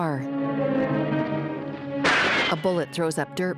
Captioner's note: gunshot